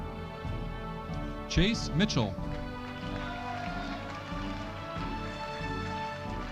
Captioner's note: audience applauding